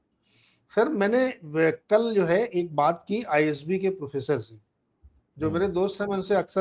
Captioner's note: nasal voice